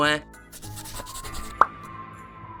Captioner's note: pencil scratching